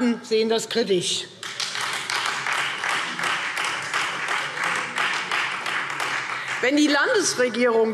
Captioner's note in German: Beifall Freie Demokraten